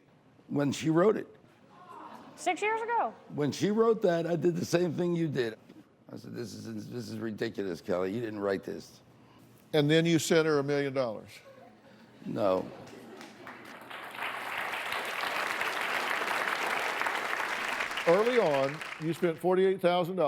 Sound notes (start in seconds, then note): 12.8 applause